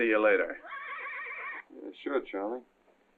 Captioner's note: horse whinnies